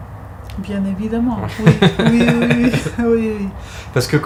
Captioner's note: laughs